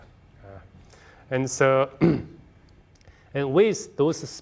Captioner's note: clearing throat